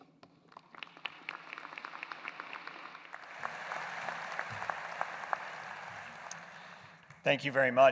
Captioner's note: applause